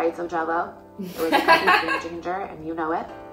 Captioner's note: laughing